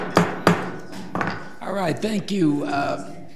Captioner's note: loud knocking